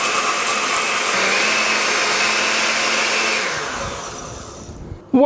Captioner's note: blender noise